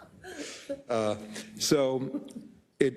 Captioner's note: laugh